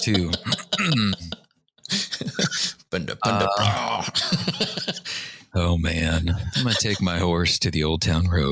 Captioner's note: laughter